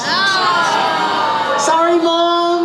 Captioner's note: audience groans